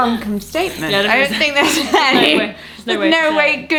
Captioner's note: laughter and chatter